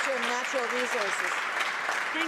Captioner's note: some Applause